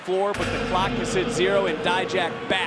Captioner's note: gong rings